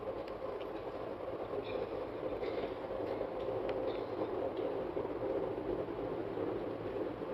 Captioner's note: Sonido del tren